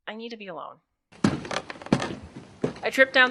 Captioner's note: stumbling down stairs